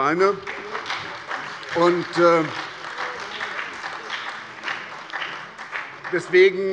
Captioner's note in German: Beifall bei der SPD, der CDU und dem BÜNDNIS 90/DIE GRÜNEN